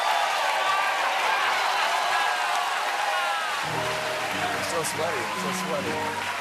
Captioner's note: cheers and applause